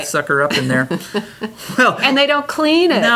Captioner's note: laughs